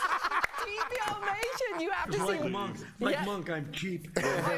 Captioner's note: laughter